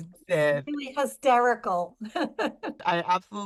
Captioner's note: laughs